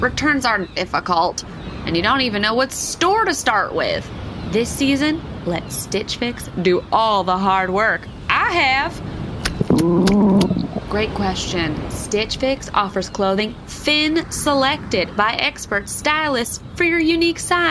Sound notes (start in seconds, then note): 9.6 growling